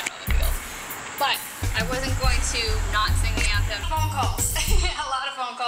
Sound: laugh

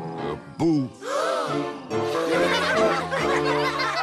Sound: gasps, then giggles

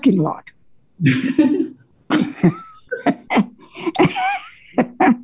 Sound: everyone laughing

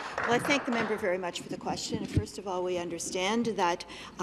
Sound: some Applause

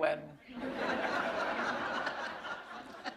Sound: laughter

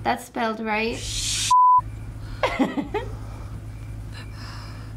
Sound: laughs

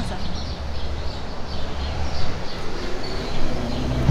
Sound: birds chirping; cars rumbling

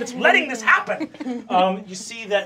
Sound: giggling

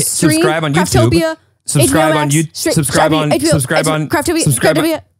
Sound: fast-paced chattering

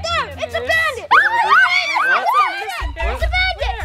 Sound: screaming

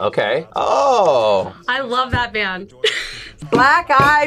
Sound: laughs

